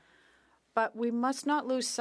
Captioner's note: speaking French